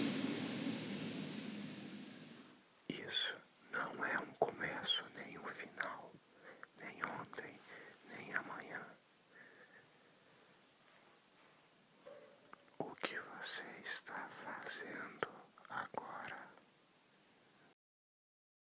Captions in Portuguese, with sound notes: [voz sussurrada] << isso não é um começo, nem o final, nem ontem, nem amanhã... O que você está fazendo agora?